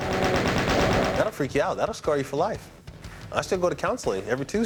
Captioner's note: gunfire